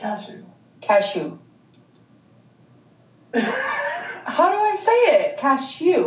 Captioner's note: laughing